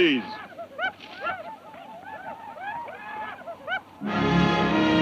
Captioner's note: Apaches shout; dramatic music